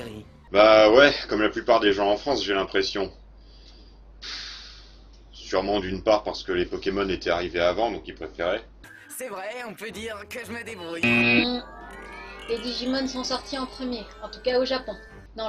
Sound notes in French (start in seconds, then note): 11.0 buzzer